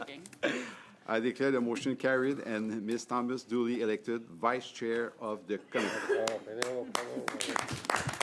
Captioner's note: laughter